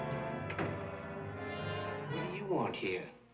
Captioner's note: door clicks